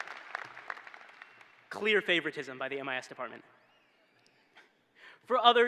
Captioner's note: cheering